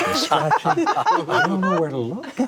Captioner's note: all laugh